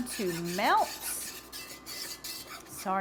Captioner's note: spoon scraping